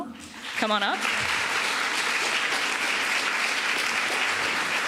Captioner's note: applause